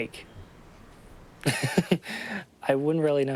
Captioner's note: laughs